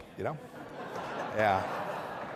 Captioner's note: laughter